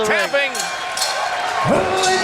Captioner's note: bell rings